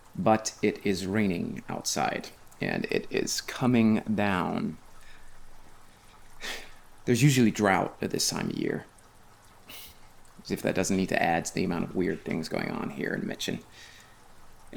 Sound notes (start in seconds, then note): 5.0 rain pattering